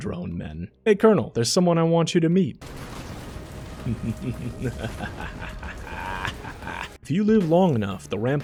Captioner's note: laughs Maniacally